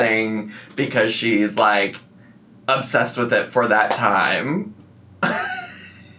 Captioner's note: laughs